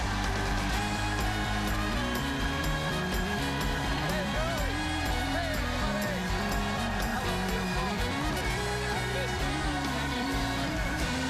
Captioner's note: cheers and applause